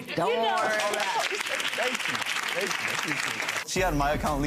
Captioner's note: audience clapping